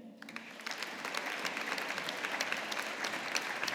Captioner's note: audience applauding